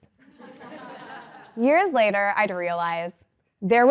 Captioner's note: laugh